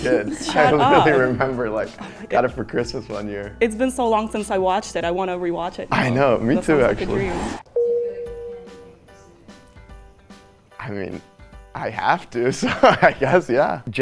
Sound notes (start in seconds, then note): 7.8 bell dings